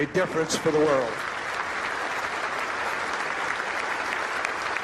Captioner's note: crowd applauding